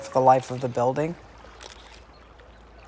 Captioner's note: shutter clicks